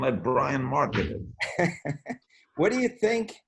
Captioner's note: laughs